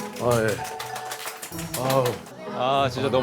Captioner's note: they welcome the exhausted pair with applause